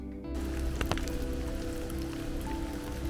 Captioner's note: light rainfall; gentle Guitar